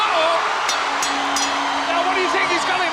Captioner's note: audience cheers; bell rings